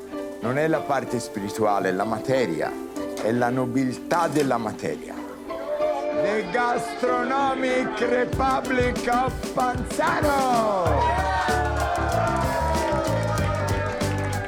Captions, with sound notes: It's not the spiritual part, it is the matter. It is the nobility of matter. The Gastronomic Republic of Panzano! (crowd cheers)